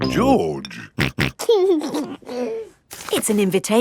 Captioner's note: snorting and giggling